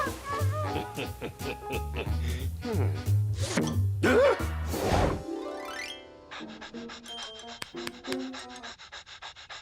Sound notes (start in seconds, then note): 0.0 chuckles; 3.6 gasps; 6.2 dog pants